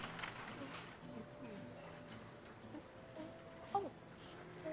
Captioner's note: shopping cart wheels rattling; Mackenzie humming